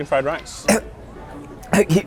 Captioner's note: coughs